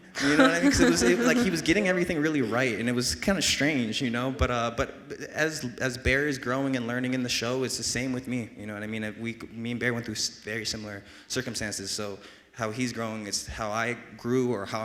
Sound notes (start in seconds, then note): 0.1 laughs